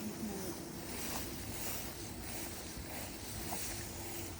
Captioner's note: grass rustling